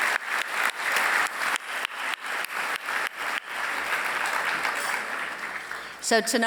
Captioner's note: applause